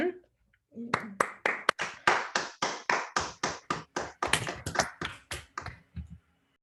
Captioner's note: clapping